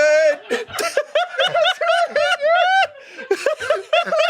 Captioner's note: they laugh